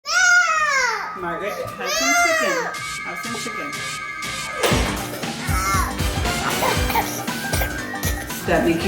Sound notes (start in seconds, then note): 0.1 child yells; 5.3 child crying